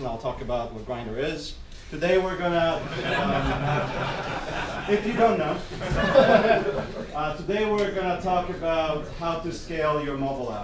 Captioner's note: people laughing